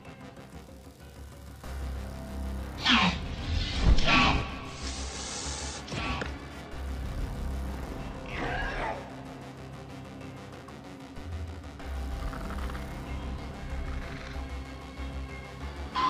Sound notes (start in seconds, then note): 0.1 intense music; 3.4 Velociraptor chirping; 10.7 intense music